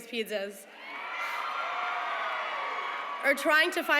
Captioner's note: cheering